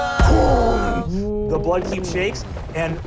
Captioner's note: boom